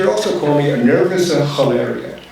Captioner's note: foreign language spoken